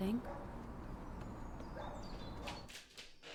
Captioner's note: dog continues barking